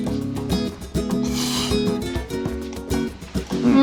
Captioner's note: slurps